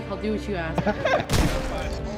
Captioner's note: gunshot